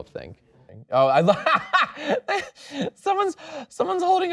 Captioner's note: laughs